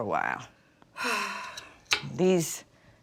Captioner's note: Mama exhales